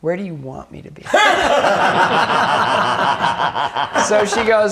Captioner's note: laughing